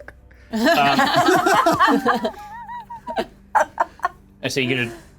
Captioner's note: players laughing